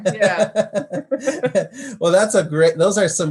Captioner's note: laughs